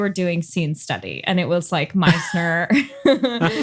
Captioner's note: laughs